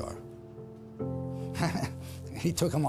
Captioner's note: chuckles